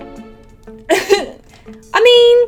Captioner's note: laughs unsurely